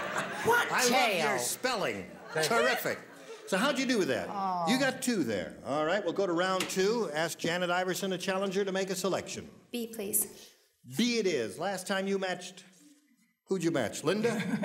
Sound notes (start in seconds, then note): 4.6 dejectedly